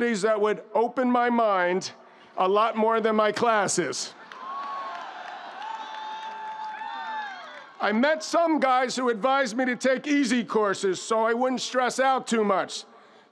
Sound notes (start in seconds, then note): 4.2 audience applauding; 4.2 audience cheering